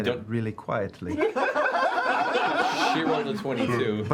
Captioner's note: laughter